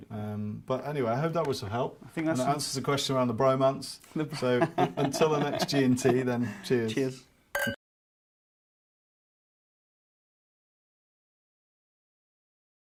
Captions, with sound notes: - Yeah, we've got it covered. - But anyway, I hope that was of help - I think that's it. - and answers the question around the bromance. - (laughs) - So, until the next G&T then, - cheers. - Cheers. (glasses clinking)